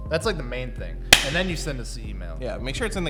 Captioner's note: claps